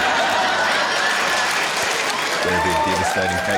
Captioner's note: laughter